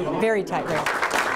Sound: cheering

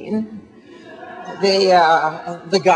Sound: audience laughing

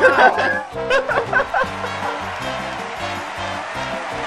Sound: laughing; applause; upbeat music

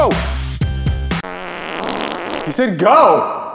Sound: fffffffffftttt!

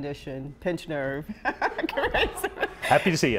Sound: laughs

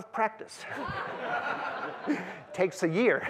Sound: laughter

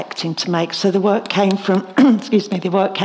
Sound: clears throat

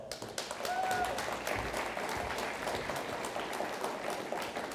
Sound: audience applauds

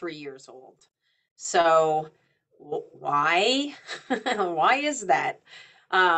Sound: chuckles

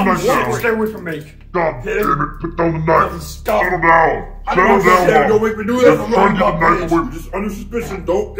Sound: incoherent yelling

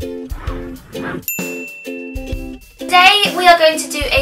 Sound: soft upbeat music; ding

